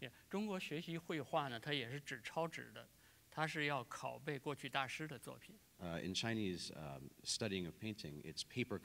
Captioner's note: speaking in Chinese